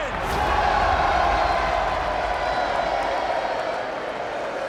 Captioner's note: crowd cheering